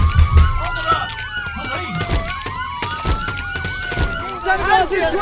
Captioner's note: sirens and yelling